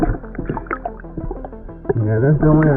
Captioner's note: oxygen bubbling in water